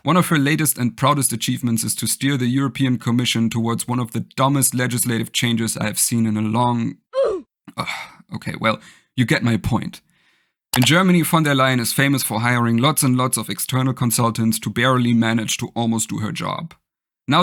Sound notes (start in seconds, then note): 7.1 sigh